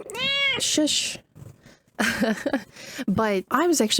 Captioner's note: cat hollering